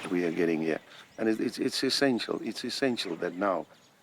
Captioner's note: none